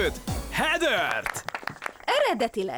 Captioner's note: applause